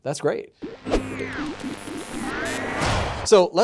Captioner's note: machine whirs